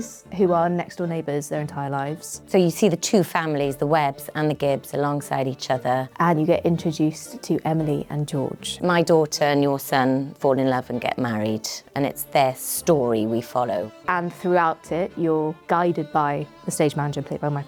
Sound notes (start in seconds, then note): none